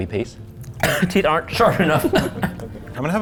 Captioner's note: coughs